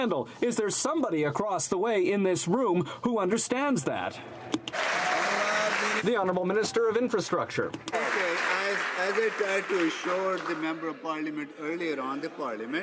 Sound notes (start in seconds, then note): 7.8 some Applause